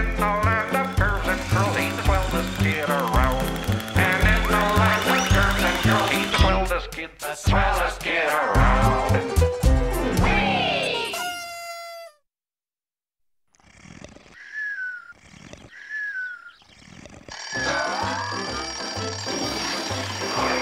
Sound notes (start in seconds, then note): 13.1 alarm clock ringing